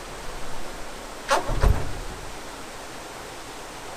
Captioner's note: crunching noise